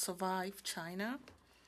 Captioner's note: speaking French